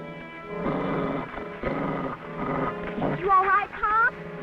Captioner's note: Rebel growling